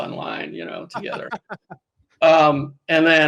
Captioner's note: laughs